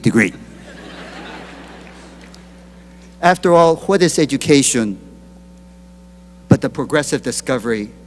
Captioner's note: laughter